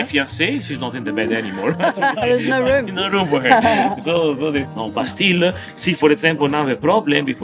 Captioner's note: laughing